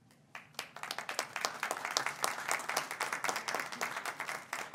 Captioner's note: audience applauds